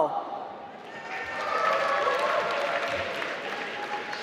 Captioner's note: applause